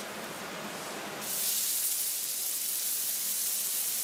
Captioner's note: sizzle